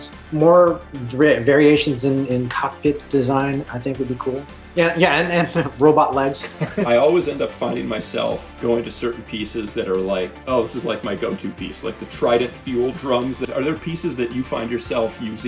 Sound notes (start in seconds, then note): 6.3 laughter